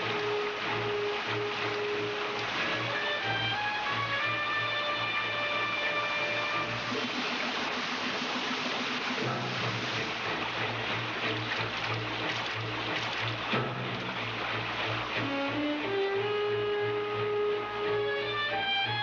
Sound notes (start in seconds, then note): 7.0 yelling